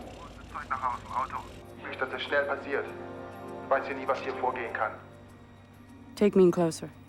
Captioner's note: man Speaking German Over P.A